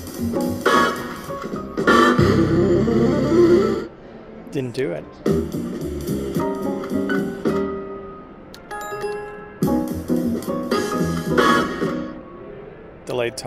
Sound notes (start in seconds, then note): 5.2 playful jazz music; 8.7 bell dings; 8.8 playful jazz music